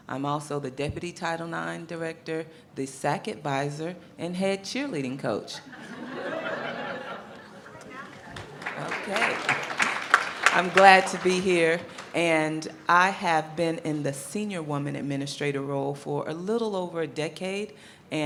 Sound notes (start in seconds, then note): 5.5 audience laughing; 10.0 audience applauding